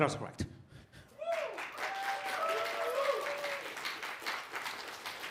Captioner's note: applause